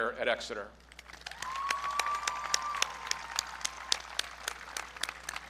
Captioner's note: audience cheering